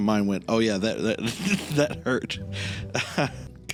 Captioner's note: laugh